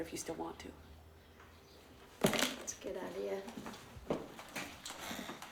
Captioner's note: clattering